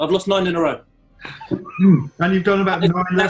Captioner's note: sniggering